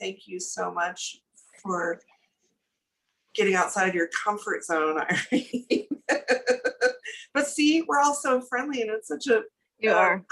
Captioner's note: laughs